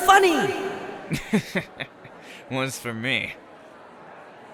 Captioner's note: chortles